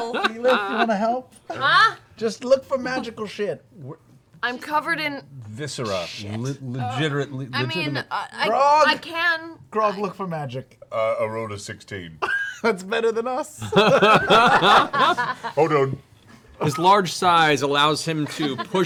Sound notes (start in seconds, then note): 13.6 laughter; 13.6 laughs